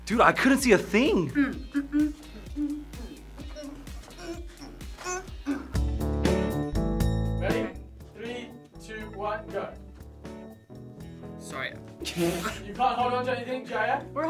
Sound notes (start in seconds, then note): 5.7 upbeat music; 12.0 laughs